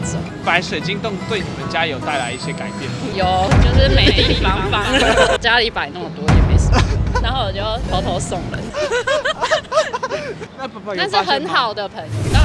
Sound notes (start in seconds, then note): 8.6 helium laugh